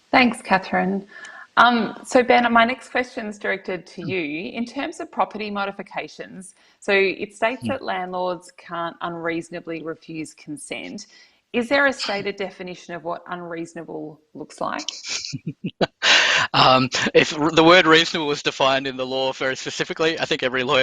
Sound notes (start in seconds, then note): 14.8 laughs